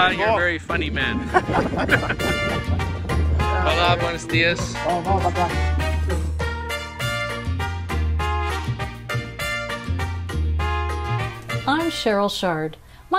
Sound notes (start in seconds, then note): 1.2 both chuckling; 3.8 speaking foreign language